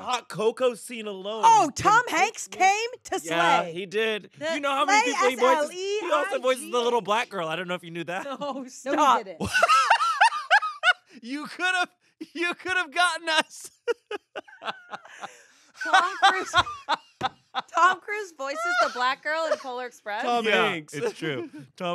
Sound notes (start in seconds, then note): 8.8 laughs; 15.8 laughs